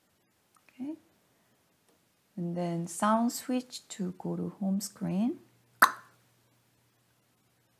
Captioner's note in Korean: '딱' 소리